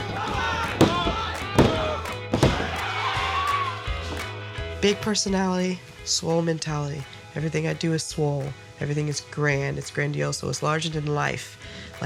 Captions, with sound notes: [fist pounds] One, two, three! Big personality, swole mentality. Everything I do is swole. Everything is grand. It's grandiose, so it's larger than life.